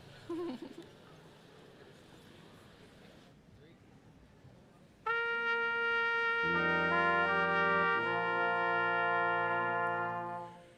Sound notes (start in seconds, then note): 0.3 chuckling; 5.0 brass quintet music